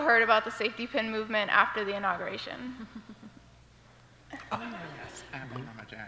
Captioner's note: several soft voices